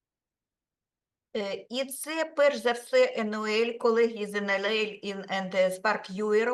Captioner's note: speaking Ukrainian